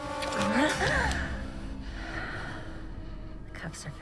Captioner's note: Elaine exclaiming